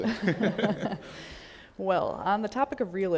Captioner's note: all laugh